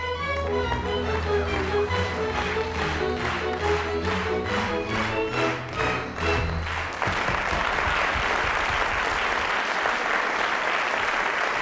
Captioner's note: applause